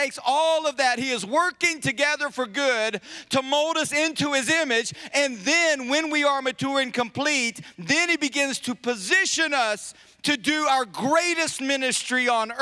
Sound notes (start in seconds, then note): none